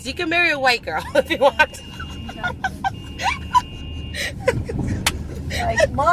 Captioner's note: laughs